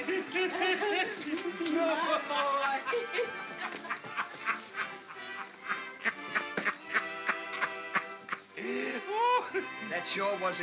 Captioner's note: Ollie laughs